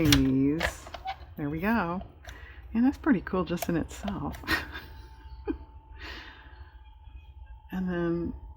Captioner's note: laughs